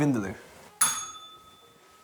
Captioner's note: bell rings